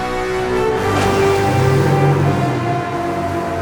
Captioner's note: bellowing